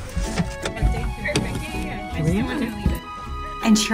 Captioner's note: people chattering